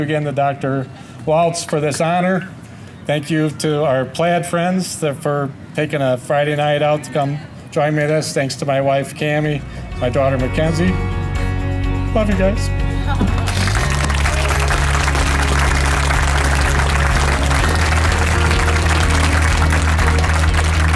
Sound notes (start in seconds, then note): 13.2 audience applause; 15.6 upbeat music